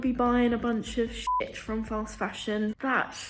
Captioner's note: beep